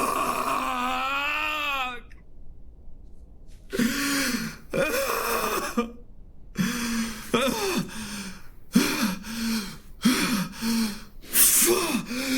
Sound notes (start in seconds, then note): 2.7 sobs